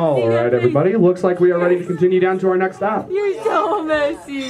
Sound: tour guide speaking in background

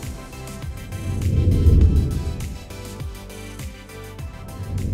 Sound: air whooshes; air whooshes

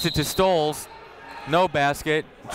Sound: whistle

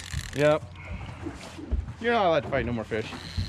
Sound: reel cranking

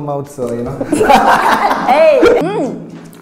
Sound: laughs

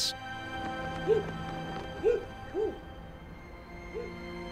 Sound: dog barking

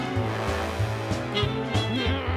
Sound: growls

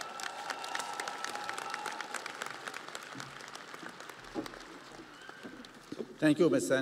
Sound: audience applauding

